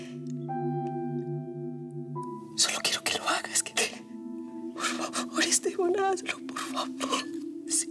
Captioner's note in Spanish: solloza